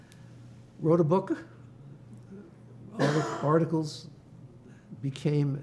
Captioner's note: coughing